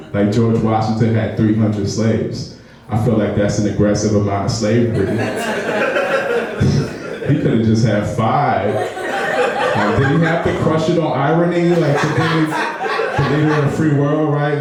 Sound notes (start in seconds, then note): 5.0 laughing; 8.6 laughing